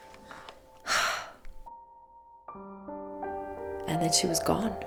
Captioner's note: delicate music; sighs